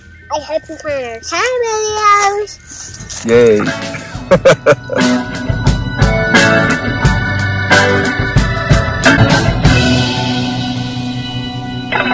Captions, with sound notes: I hope you find our channel videos. Yeay. [laugh]